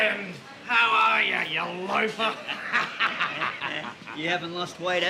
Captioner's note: Alfred laughs